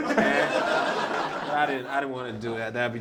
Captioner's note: laughter